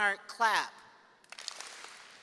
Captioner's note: seniors clapping